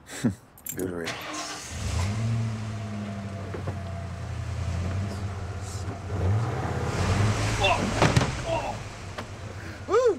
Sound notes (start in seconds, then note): 0.1 Mac chuckles; 1.0 engine starts; 6.3 engine revving; 7.8 Blake yelps; 9.8 Mac whoops